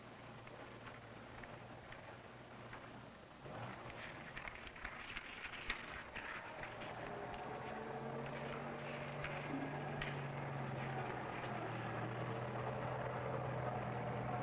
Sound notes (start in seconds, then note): 3.4 street noise